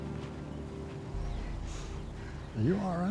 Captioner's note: sighs